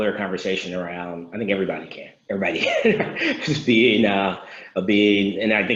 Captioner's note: laughs